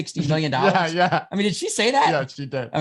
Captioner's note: laughs